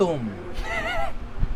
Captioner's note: chuckles